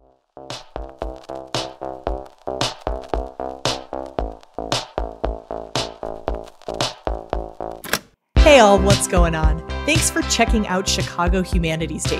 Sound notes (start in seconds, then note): 3.6 cassette tape player clicks open; 3.6 theme music plays